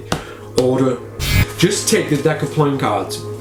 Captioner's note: screeches